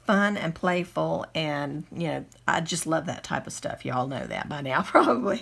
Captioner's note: giggles